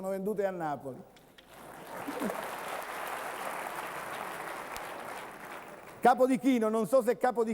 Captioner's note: Applauso